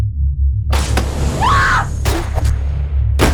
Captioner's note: door bursts open; Shelby screams; shotgun blasts